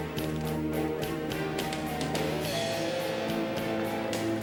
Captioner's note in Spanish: ronco de motor de carro